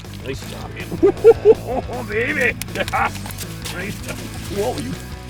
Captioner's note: laughter